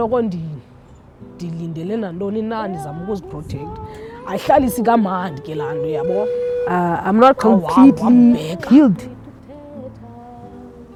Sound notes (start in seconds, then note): 3.9 sobs